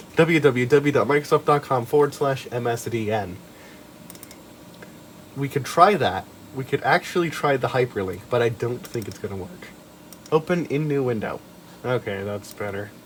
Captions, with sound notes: www.microsoft.com/msdn (double clicks) We could try that. We could actually try the hyperlink, but I don't think it's gonna work. Open in new window. Ok that's better.